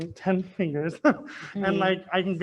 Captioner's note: laughs